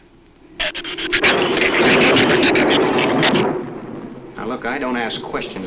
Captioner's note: thunder rumbles; shrew screeches